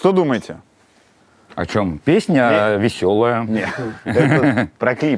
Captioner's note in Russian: смеётся